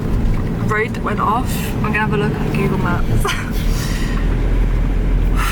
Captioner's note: laughs